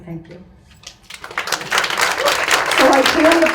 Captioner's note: audience claps